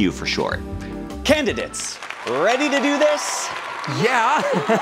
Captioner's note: crowd cheering